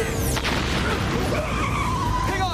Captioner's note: squealing